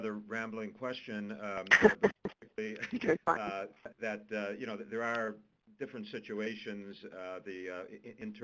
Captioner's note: laughter